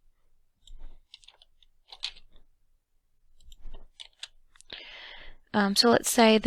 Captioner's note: typing noise